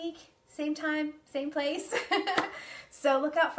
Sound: laughs

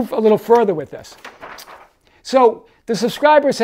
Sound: page shuffles

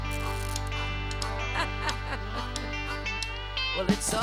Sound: rio chuckles

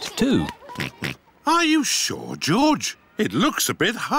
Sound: oinks

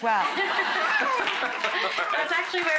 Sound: audience laughing

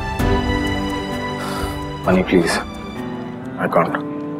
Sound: gasps

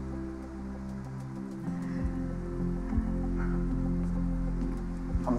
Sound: gasps lightly

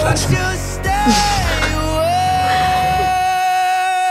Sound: laughing

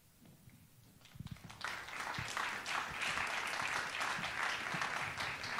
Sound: audience applauding

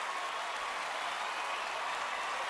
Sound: cheering, applause

